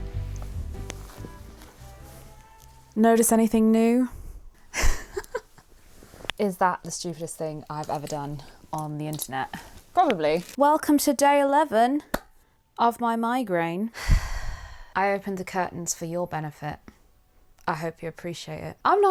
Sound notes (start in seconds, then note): 11.8 claps; 14.0 sighs